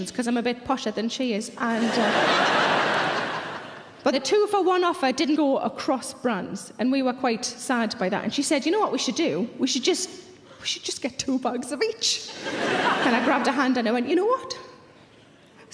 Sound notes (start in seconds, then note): 1.7 audience laughing; 12.3 audience laughing